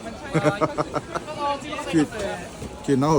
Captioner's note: laughing